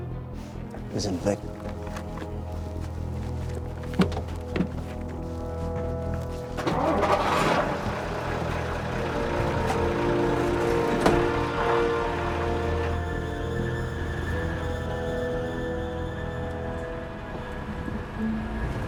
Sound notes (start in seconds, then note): 6.8 engine revs; 12.7 suspenseful music